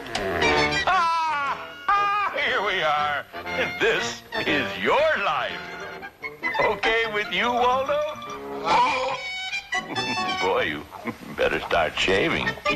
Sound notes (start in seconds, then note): 7.9 Wilfred gulping